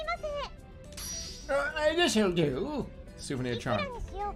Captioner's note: old man voice